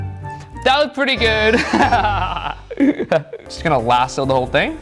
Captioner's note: laughs